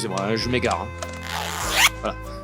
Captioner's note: zipper noise